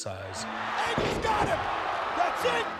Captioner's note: crowd roaring